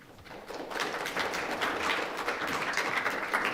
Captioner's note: applause